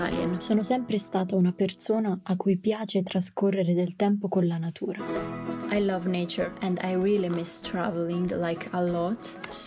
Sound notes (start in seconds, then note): 0.1 in Italian